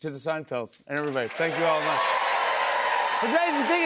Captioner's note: cheers and applause